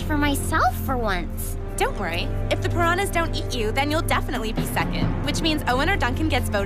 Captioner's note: none